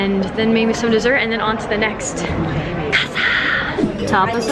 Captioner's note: speaking in foreign language